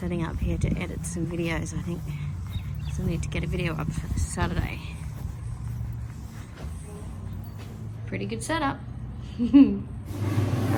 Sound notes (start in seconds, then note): 9.3 chuckles